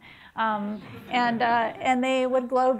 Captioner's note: people laughing